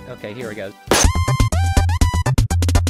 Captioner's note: gunshot